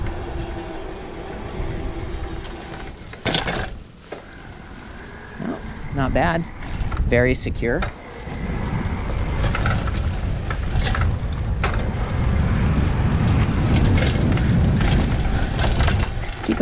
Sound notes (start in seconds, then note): 1.5 chain clicking; 3.2 tires pounding; 10.0 chain clicking; 13.2 air whooshing